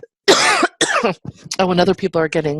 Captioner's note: coughing